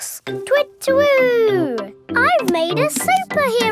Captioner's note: imitates owl